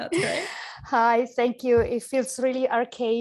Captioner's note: chuckles